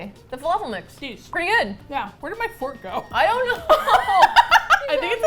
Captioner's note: with exasperation